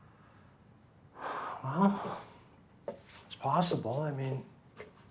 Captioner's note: sighs